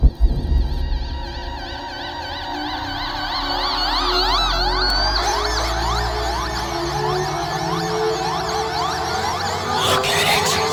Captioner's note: ear piercing sounds